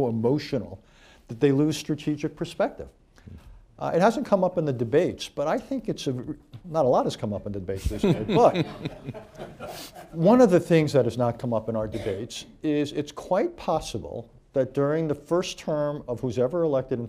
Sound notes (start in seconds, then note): 7.9 laughter